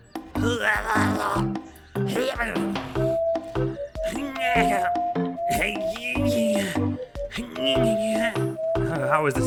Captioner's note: makes a series of increasingly ridiculous effortful grunts